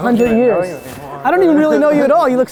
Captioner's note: bell dings